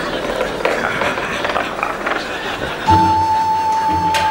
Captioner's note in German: Kichern